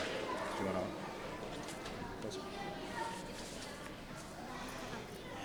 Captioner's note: audience chattering